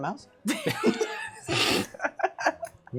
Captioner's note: laughter